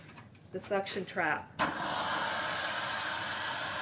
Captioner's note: suction sound